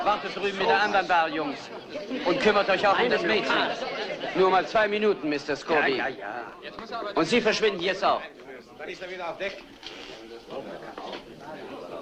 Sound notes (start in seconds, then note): 9.1 all chattering